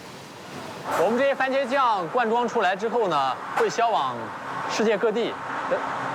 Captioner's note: speaking in foreign language